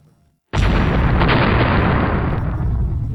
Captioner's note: dynamite blasts